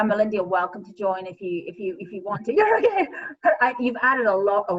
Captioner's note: laughing